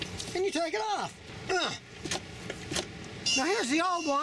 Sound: grunts

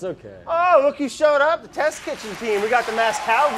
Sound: applause

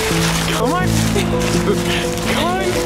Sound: laughter

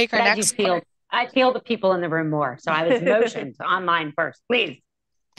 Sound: laughter

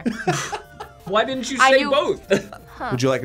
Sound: React laughs; laughs

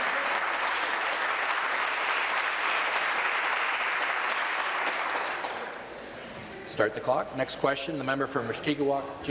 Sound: applause

